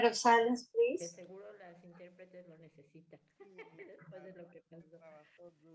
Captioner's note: speaking spanish